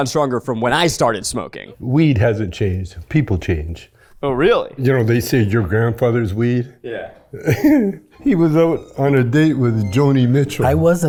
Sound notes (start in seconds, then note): 7.3 Chong chuckles